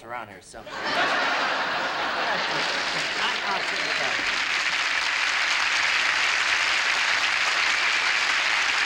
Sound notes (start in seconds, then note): 0.6 laughter; 2.0 applause